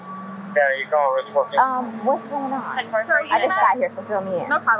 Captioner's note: voice on police radio